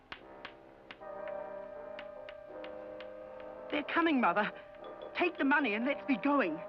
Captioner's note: tapping sound